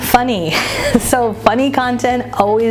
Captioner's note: chuckles